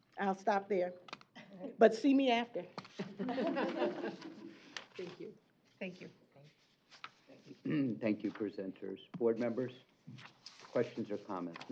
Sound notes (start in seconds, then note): 2.9 laughter